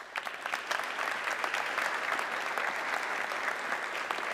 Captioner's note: audience clapping